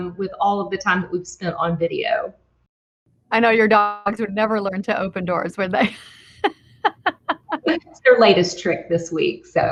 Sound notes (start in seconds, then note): 5.8 laughs